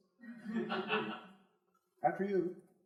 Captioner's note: crowd laughing